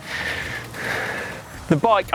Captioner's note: heavy breathing